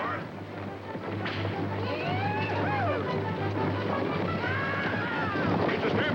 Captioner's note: whip Cracking